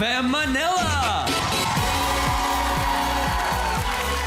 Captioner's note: audience cheering, clapping; theme music playing